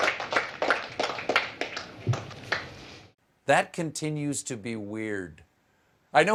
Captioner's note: applause